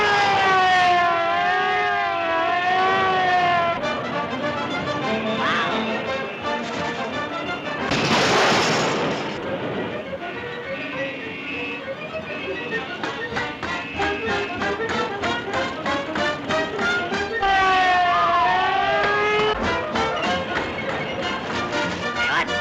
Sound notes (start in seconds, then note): 0.0 siren blaring; 3.9 upbeat music; 7.7 car crashes; 11.3 horns honking; 11.3 upbeat music continues; 16.4 siren blaring; 17.7 Olive squeals